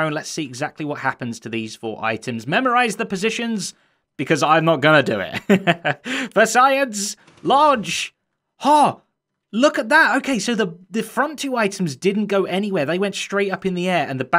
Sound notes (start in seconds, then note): 5.3 chuckles